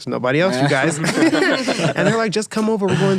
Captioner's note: laughing